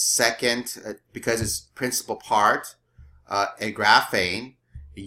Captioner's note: speaking greek